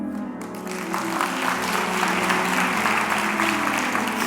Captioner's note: applause